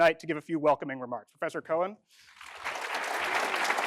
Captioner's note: applause